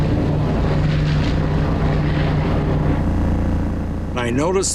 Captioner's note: propellers whirring